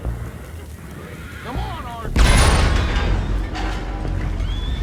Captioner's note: an explosion blows out the anchor